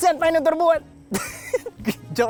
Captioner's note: laughs